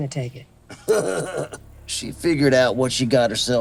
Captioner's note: laughing